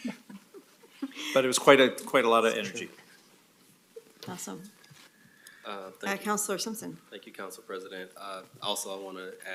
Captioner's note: laughter